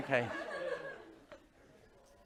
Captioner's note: laughter